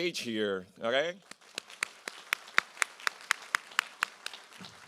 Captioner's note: applause